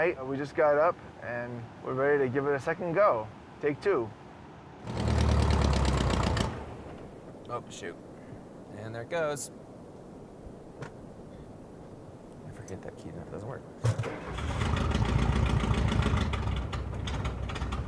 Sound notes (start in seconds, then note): 4.8 engine revving